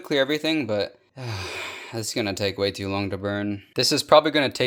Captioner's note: sigh